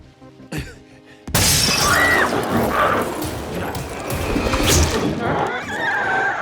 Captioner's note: glass shatters; Chalee screams; glowzie shrieks